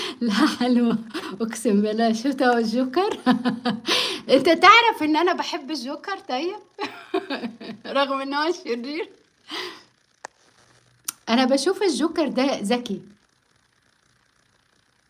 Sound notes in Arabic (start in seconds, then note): 3.8 ضحك